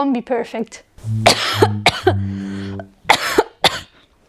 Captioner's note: coughing